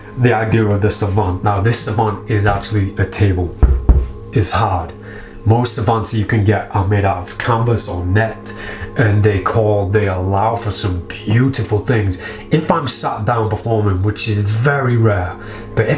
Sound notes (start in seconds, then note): 3.6 hand knocks